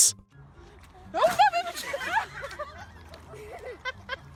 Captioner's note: all laughing